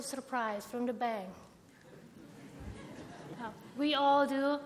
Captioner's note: laughter